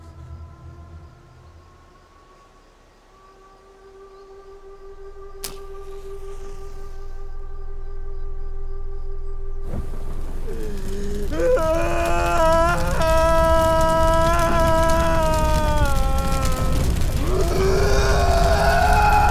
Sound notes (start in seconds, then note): 9.7 fire blazing; 11.4 Chad screaming